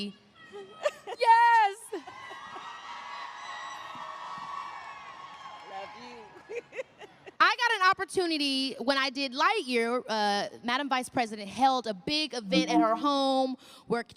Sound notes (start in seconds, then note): 4.6 applause; 7.2 laughs